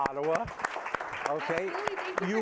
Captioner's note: applause